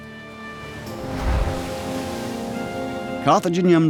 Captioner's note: waves crashing